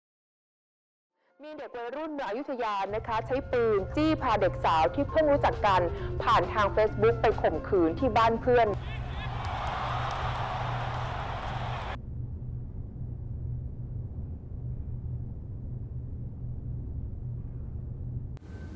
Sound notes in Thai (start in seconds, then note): 8.5 เสียงการถ่ายทอดสดการแข่งขันฟุตบอล